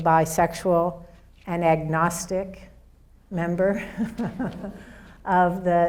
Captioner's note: laughs